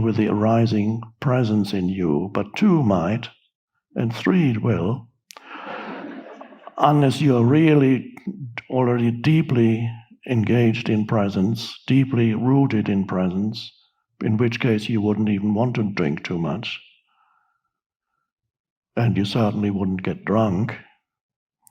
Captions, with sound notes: with the arising presence in you, but two might and three will, (audience laughing) unless you are really already deeply engaged in presence, deeply rooted in presence, in which case you wouldn't even want to drink too much and you certainly wouldn't get drunk.